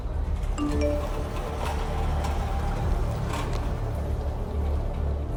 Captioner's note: phone notification beep